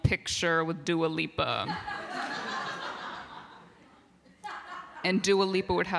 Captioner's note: laughter